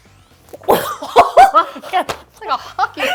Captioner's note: group laughs